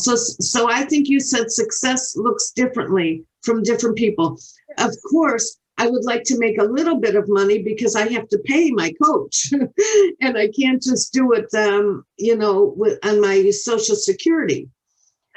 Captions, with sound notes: So I think you said success looks differently from different people. Of course, I would like to make a little bit of money because I have to pay my coach (chuckles) and I can't just do it, you know, on my social security.